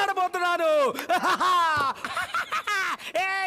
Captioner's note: Laughs